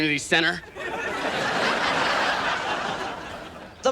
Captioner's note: audience laughs